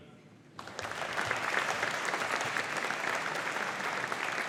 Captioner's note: audience applauding